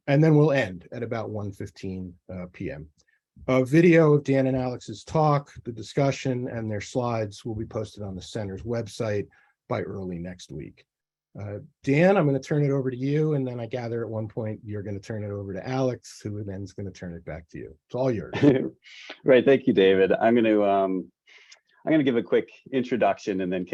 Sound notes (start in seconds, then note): 18.3 chuckles